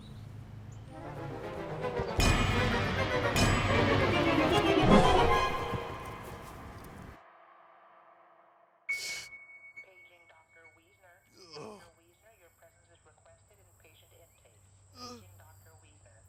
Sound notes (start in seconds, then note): 11.3 grunts